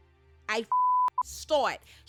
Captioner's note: beep